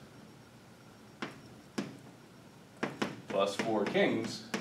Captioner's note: chalk pen tapping